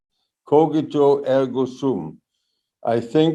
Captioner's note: speaks in foreign language